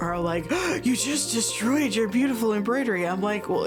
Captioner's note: gasps